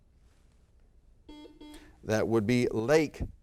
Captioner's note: buzzer beep